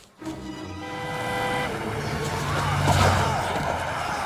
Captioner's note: car honking